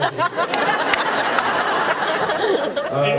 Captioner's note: laughs